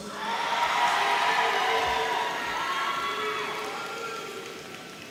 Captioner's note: audience cheering